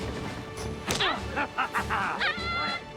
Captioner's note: Pearce laughing; boy yelping